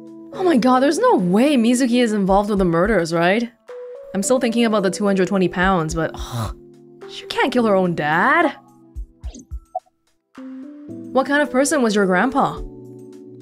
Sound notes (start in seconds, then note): 6.1 exhales